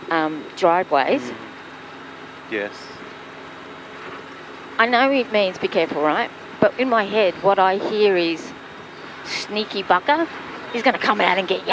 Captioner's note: cough cough